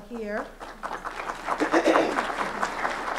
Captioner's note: applause